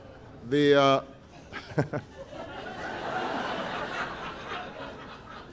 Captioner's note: laughter